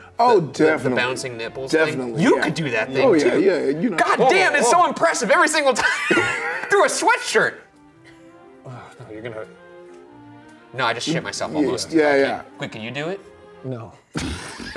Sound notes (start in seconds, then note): 5.7 laughs; 14.1 laughing